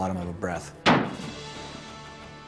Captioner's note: gunshot